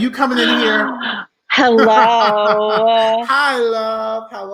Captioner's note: laughing